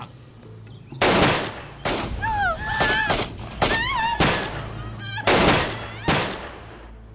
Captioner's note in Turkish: Silah sesleri ve kadın çığlıkları